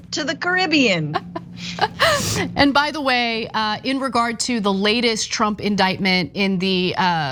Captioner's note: laugh